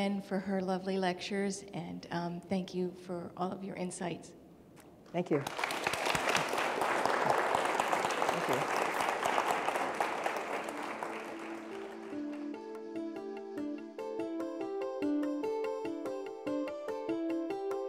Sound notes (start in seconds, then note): 5.3 audience clapping; 9.8 instrumental music